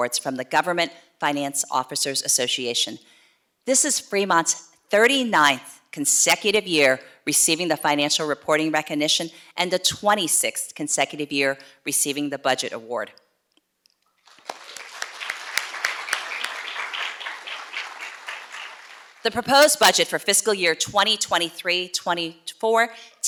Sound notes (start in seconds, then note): 14.2 audience clapping